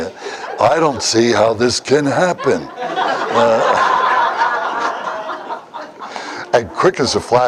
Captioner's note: Смех